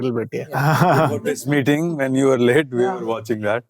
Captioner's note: chuckles